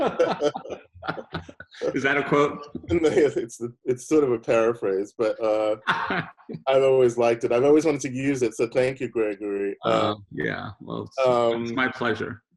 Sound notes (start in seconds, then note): 0.0 both laughing; 5.4 laughing